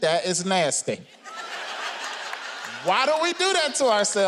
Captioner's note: audience laughing